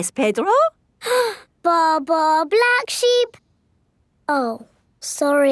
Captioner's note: inhales